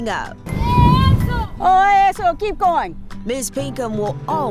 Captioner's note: child shouts